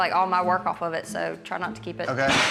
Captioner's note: dishes clank